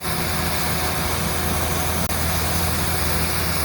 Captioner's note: machine noises and water spraying throughout